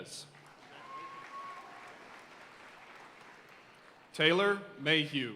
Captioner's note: audience cheering and applauding